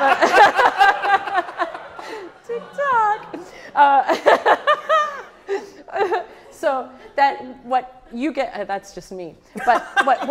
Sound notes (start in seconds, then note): 0.0 audience laughing; 4.4 laughs